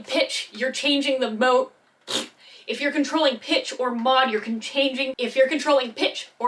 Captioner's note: pfft